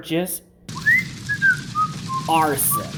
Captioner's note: Pipe the Clone's whistling